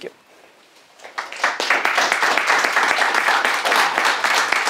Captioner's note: audience clapping